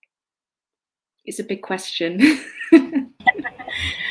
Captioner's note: laughs